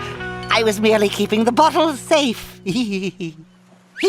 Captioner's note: nervous chuckles